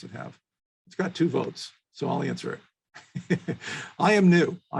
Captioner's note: chuckles